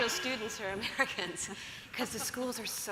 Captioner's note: panelists laugh